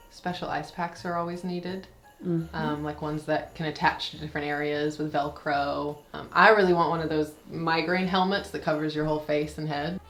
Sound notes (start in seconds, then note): none